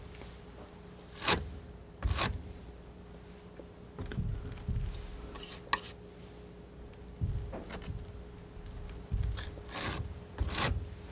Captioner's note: scratching